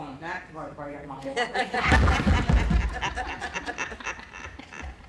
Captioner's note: laughter